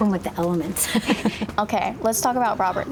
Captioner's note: laughs